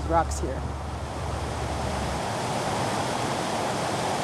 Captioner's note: water rushing